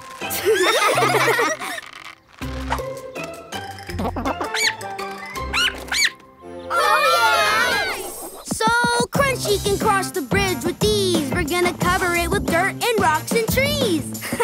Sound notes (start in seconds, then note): 0.3 laughing; 6.1 squeaking; 8.2 cheering